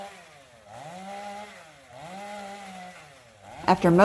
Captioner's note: chain saw noise